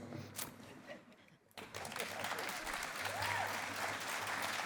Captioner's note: cheering and applause